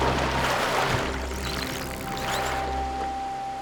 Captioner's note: dolphins whistling